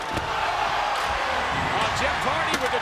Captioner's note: audience groans; body thuds